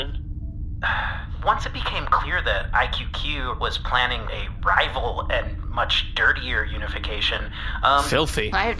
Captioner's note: sighs